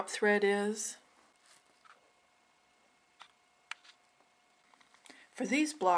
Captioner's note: silence